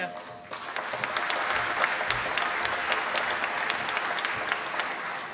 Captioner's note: applause